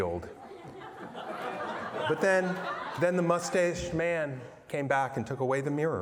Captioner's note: laughter